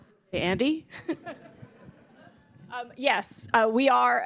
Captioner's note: laughter